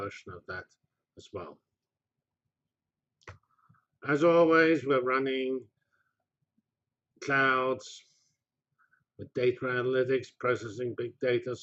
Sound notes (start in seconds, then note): 1.9 pause